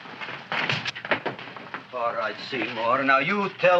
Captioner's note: Seymour crashing